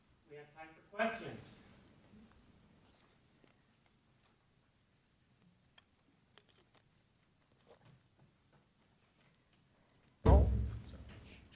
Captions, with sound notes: - [Voiceover] We have time for questions.